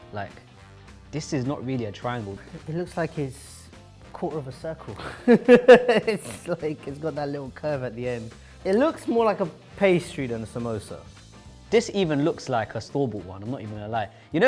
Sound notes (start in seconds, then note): 5.0 laughs